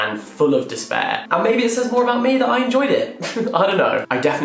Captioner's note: laughs